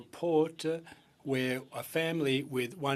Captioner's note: speaking French